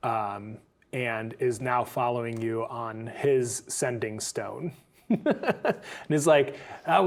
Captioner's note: chuckles